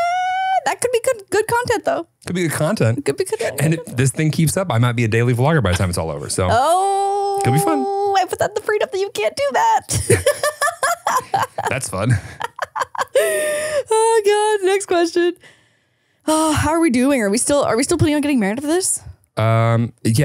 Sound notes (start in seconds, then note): 9.8 laughing